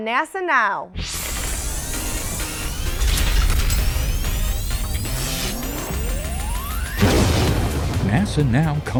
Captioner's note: sound Effects